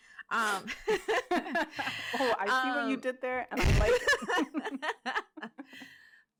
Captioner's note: laughter; laughter